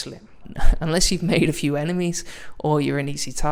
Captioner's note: chuckles